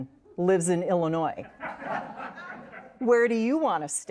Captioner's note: audience laughs